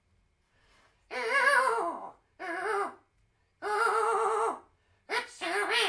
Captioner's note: more weeping